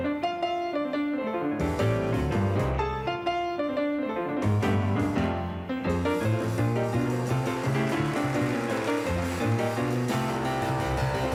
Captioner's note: applause